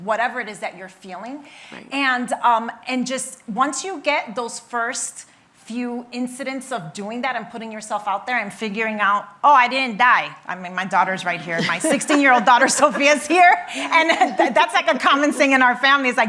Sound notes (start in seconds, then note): 11.5 laughing